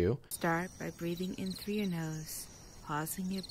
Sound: crickets chirping

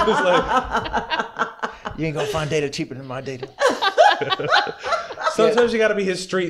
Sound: laughter

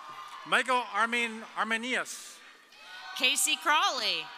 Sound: audience cheering

